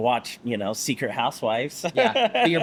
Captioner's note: laughs